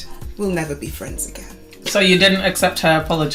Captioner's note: laughs